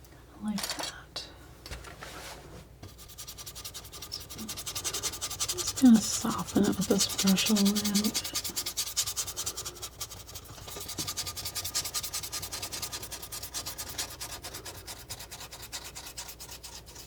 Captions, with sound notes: I like that. [scratching] I'm just going to soften it with this brush on the end. [scratching]